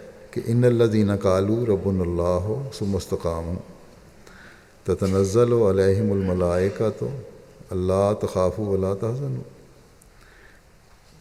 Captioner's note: Arabic, Holy Qur'an 41:31